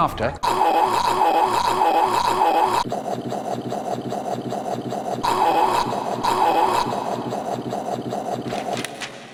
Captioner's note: various choking noises